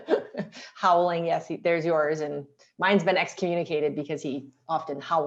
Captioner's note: laughter